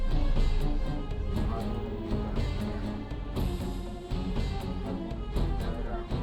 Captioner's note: dramatic music; speaks in foreign language